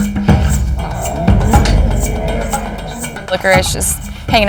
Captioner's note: Licorice growling